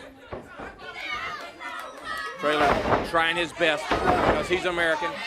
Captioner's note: crowd chatter